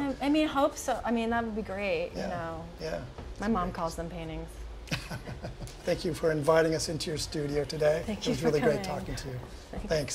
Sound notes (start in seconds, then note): 4.9 laughing